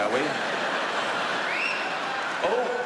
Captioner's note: audience laughs